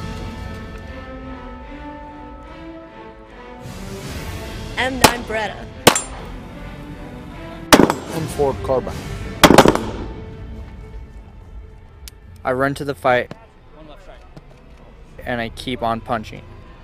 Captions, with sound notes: (intense dramatic music) - M9 Beretta. (gun fires) - M4 Carbine. - I run to the fight and I keep on punching again and again.